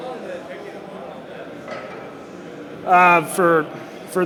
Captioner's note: crowd murmuring drowns out audience member